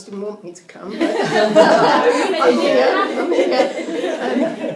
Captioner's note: audience laughing